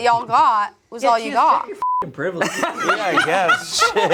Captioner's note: beep